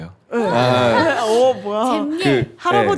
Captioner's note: A cheering crowd